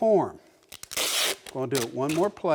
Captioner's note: tape tears